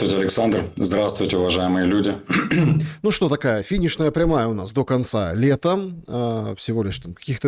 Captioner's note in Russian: откашливается